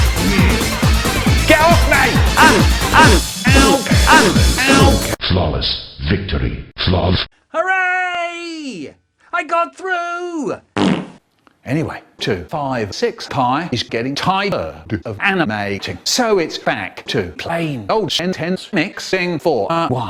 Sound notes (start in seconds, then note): 10.7 fart